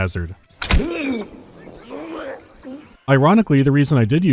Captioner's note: guard chokes on some moss